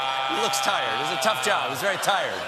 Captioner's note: laughter